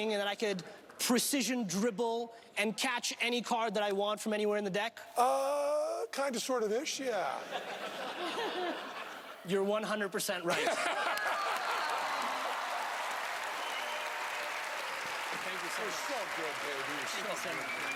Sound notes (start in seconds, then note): 7.4 laughing; 10.5 laughing; 10.6 audience cheering and clapping